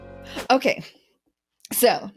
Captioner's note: whooshing sound